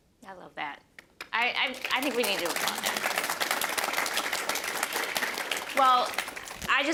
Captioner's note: applause; applause continues